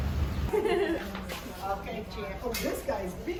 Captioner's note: woman laughing